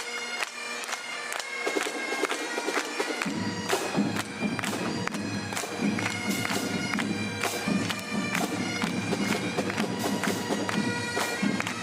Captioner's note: clapping